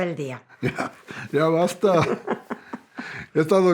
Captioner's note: Se ríen